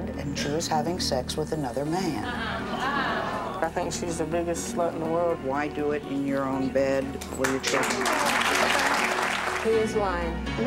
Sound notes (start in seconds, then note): 2.2 audience gawks; 7.1 applause